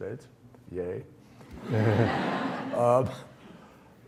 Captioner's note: audience laughs